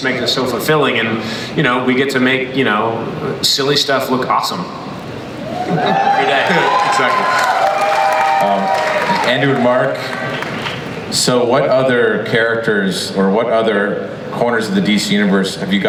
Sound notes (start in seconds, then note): 6.0 applause